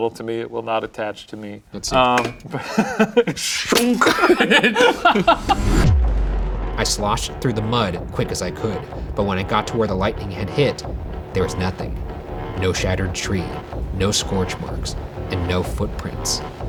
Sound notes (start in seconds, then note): 2.4 laughing